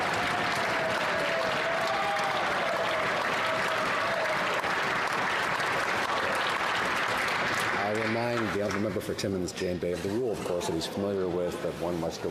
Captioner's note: some Applause